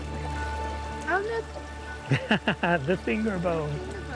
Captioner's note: laughs